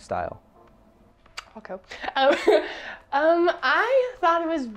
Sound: laughs

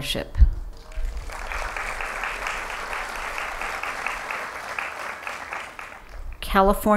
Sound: applause

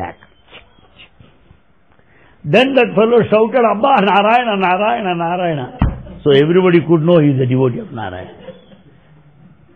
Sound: laughter

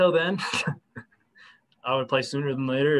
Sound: laughter

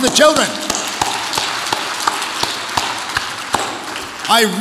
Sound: audience applauds

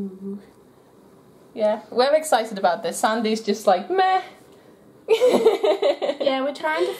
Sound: laughter

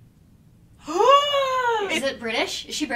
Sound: gasps

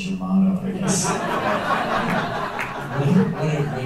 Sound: laughter

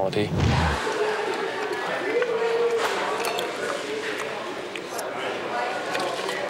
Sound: restaurant patrons chattering

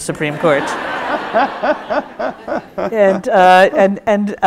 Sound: audience laughs

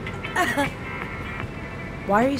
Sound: laughs

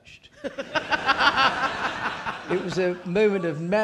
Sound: audience laughing

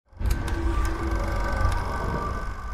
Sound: film reel scrolling

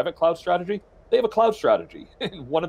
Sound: chuckles

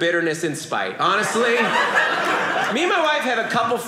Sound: audience laughing

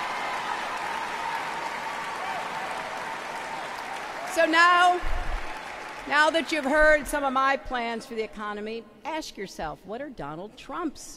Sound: applause

